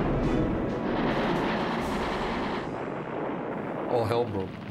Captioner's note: explosions and gunfire